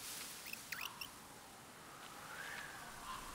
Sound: chirping

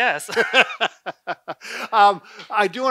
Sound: laughs

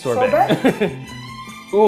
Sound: laughter

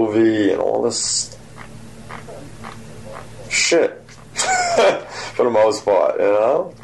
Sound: laughs

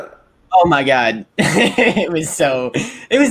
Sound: laughs

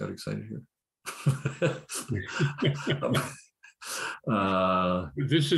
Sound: laughter

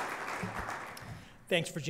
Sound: applause

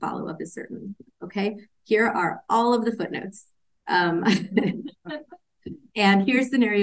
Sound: laughs

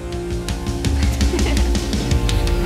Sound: chuckling

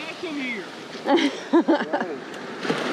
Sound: laughs

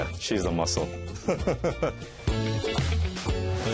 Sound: laughs

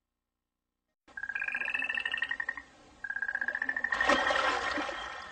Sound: nightingales tweeting; water cascading

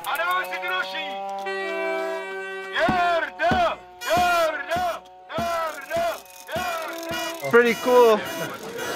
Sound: chanting

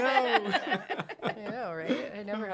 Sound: laughter

